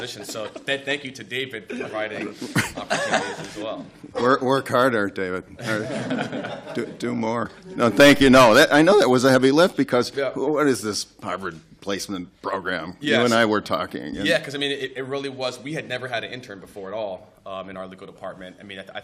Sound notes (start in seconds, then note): 1.6 laughter; 5.6 laughter